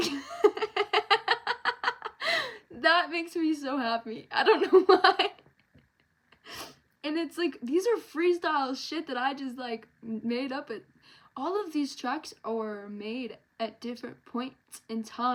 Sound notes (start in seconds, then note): 4.4 laughs